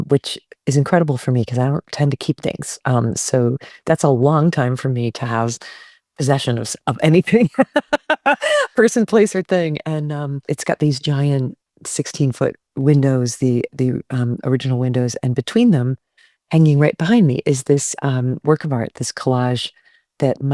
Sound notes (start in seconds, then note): 7.4 Elizabeth laughs